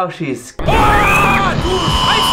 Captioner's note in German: Schreit